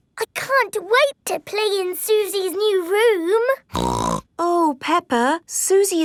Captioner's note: snorts